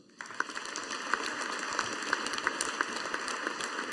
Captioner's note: audience applauding